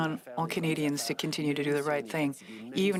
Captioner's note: speaking French